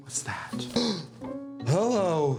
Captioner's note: gasps